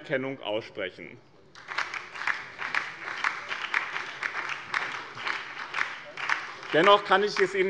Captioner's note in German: Beifall bei dem BÜNDNIS 90/DIE GRÜNEN und der LINKEN